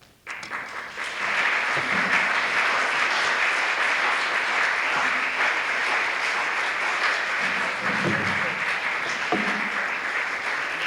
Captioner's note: applause